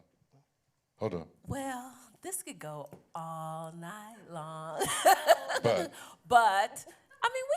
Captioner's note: chuckles